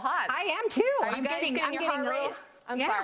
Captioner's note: both mumbling